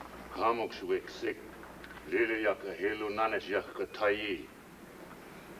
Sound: speaking in foreign language

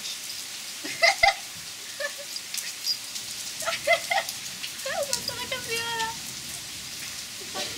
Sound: laughs

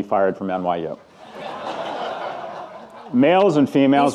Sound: audience laughing

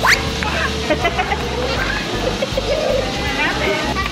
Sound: laughter

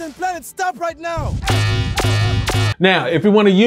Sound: shooting sounds

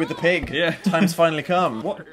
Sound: laughs

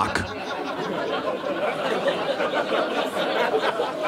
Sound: audience laughing

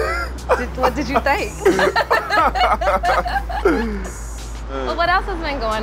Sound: laughs

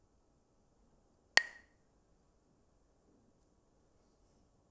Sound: Mooji clacks the sticks

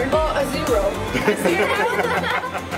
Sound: laughing

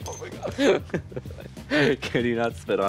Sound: Pearl laughing

